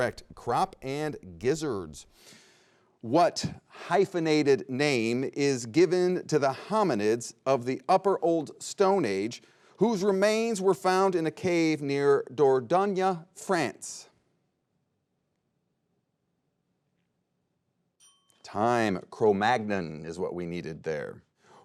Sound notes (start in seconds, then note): 18.0 bell dings